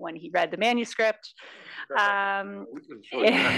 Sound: laugh

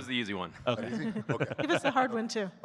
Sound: chuckling

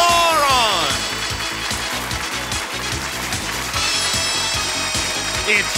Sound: cheers and applause

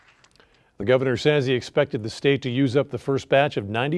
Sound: applause

